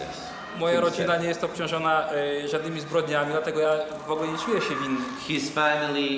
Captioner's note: speaking Polish